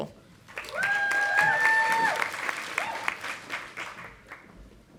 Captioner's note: audience applauding